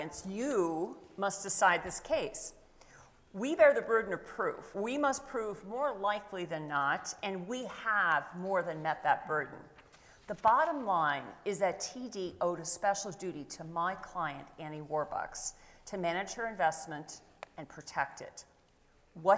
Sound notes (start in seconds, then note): none